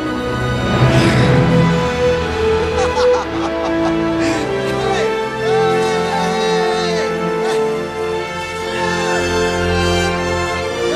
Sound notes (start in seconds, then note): 2.5 exultant cries!